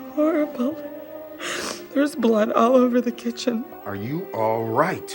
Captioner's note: sniffles